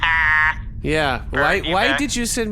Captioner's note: laughs